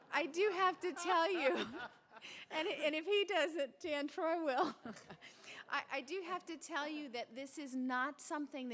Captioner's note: laughter